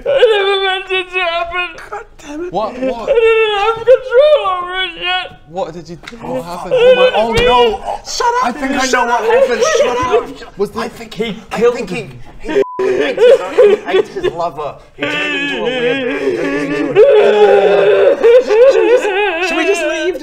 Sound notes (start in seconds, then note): 14.8 crying intensifies; 17.0 howling in grief